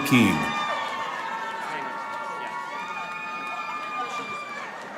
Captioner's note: audience applauding